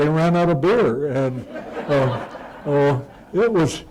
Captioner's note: laughter